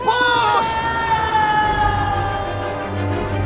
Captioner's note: screaming